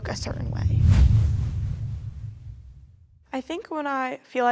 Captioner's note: percussive whoosh